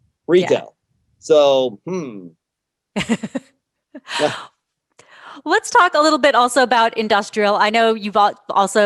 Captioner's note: laughs